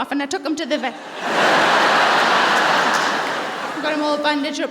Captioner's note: laughter